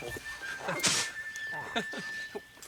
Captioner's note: Tom chuckles; Paku spits; Tom chuckles